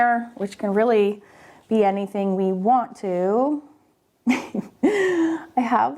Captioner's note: chuckles